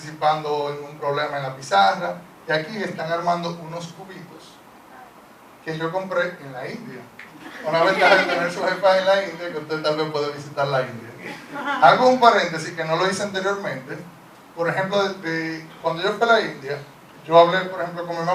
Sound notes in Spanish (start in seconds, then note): 7.4 Risa del público